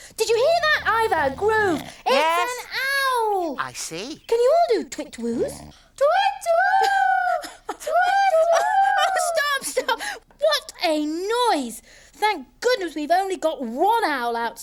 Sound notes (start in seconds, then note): 6.2 hooting